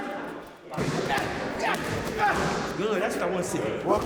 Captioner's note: grunting